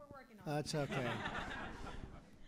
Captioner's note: laughter